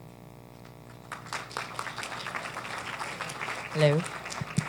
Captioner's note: applause